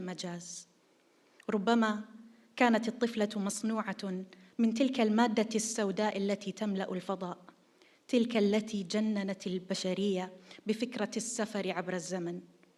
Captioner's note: in Arabic